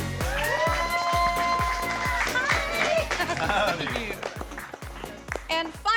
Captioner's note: cheering